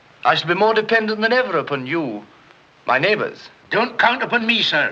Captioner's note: none